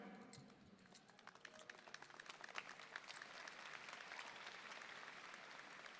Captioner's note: audience applauding